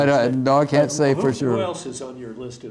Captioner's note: laughs